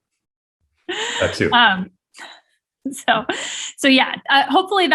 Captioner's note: chuckling